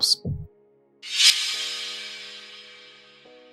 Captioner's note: air tings; calm music